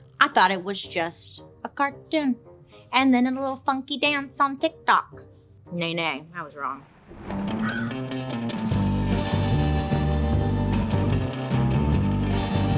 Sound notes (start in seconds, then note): 7.0 thunder crashing; 7.3 upbeat mysterious rock music; 7.6 bird cawing